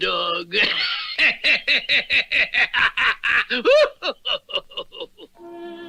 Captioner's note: Simon Bar Sinister Laughs